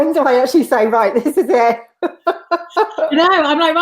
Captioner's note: laughs